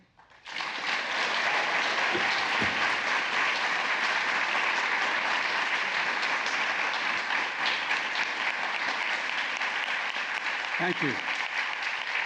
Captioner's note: applause